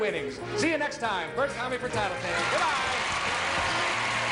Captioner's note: cheers and applause